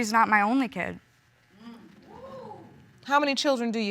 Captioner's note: audience exclaims